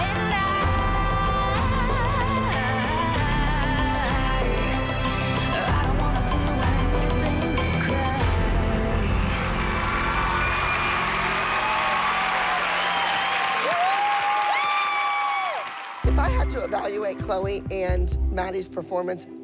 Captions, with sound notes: And I-- I don't want to do anything but cry. [cheering] Woo! If I had to evaluate Chloe and Maddie's performance,